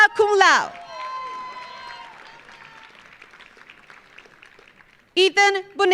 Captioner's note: audience cheering; audience applauding